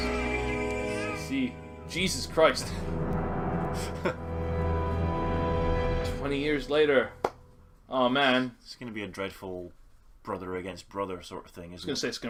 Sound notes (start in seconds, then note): 3.7 NinjaFish laughs in shock